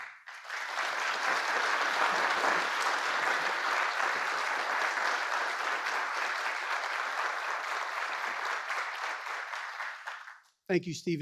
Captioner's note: applause